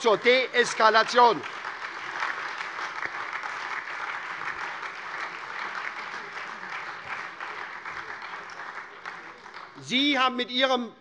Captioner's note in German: Beifall SPD, vereinzelt Freie Demokraten und DIE LINKE - Zuruf CDU